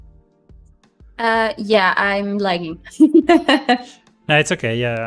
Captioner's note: laughs